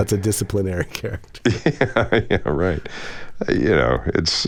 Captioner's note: laughter